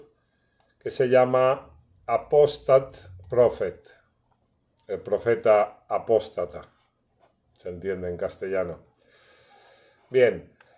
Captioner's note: Spanish